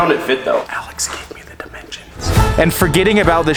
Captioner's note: whispers